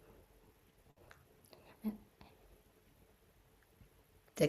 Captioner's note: pause